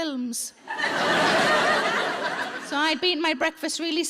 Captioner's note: audience laughing